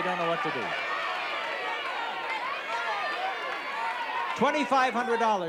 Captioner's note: chatter